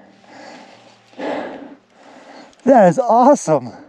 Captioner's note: panting